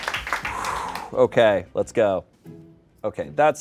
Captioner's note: audience applauds; sighs